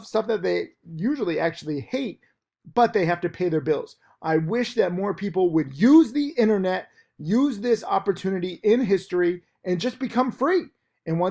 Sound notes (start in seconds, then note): none